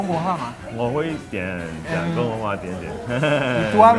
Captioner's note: speak Chinese